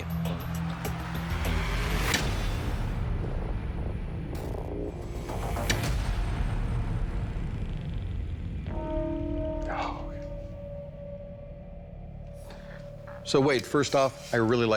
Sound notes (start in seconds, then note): 9.2 quietly